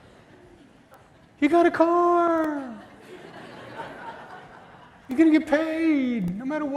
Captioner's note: laughter